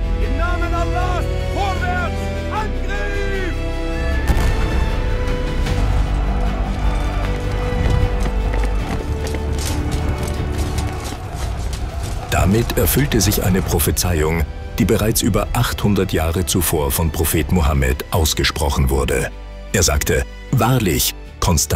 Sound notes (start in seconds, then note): 4.2 cannons booming; 4.3 soldiers shouting; 6.8 horse hooves thumping